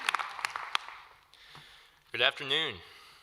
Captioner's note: applause